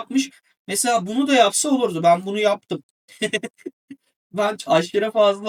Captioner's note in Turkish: kahkaha